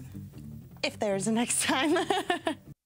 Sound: laughs

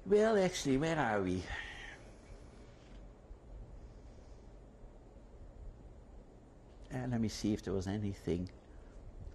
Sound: pauses for 6 seconds

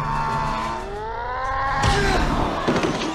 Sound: Flash Maguire yells in slow-mo; epic punch sound

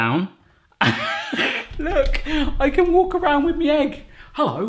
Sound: laughs

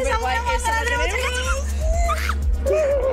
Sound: both shouting

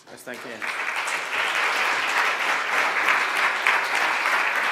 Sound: applause

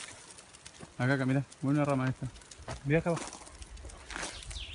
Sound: speaks in a foreign language

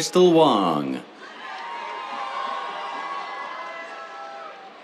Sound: cheers

